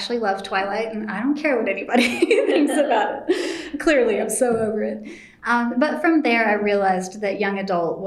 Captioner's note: laughs